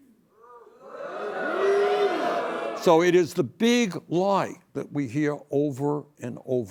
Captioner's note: booing